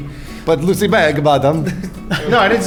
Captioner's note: Italian accent